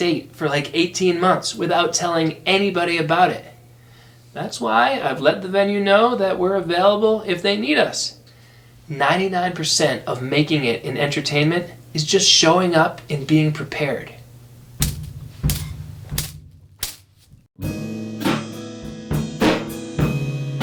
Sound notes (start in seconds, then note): 15.0 sticks clapping; 17.6 mellow rock music